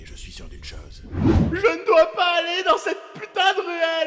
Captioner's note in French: sanglots